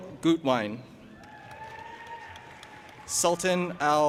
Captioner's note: audience applauding and cheering